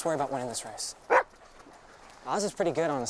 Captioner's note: Buck barks